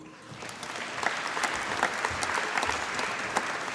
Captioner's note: applause